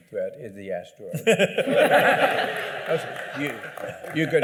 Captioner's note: laughter